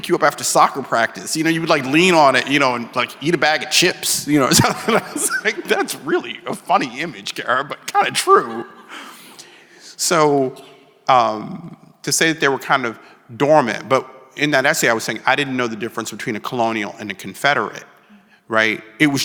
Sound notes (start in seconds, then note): 4.4 chuckles